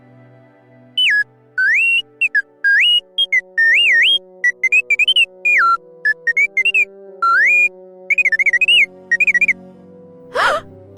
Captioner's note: t3-m4 beeps; gasps